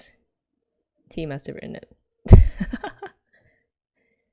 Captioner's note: laughs